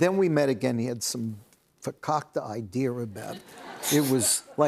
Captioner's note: laughter